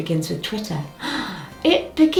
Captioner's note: gasps